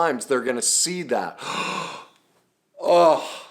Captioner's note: gasps